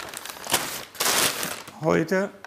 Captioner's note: rustling